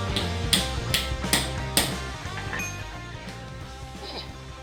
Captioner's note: hamming metal